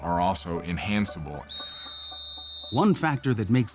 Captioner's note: whistle blows